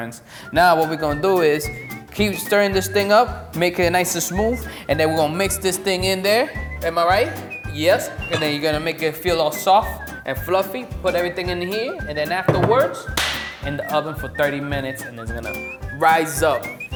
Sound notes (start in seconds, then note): 13.0 clap